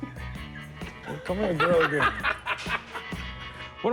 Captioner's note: laughs